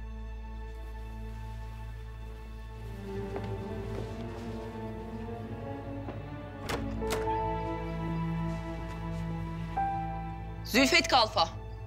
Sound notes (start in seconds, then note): 6.4 sound of door opening